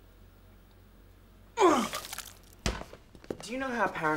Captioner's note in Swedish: kräks